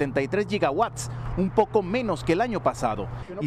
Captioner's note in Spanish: HABLAN EN INGLéS